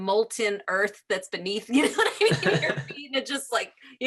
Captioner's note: laughing